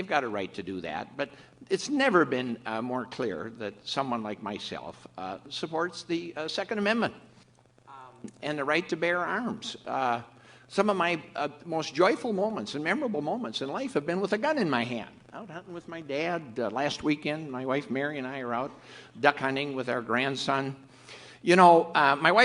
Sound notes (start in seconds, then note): none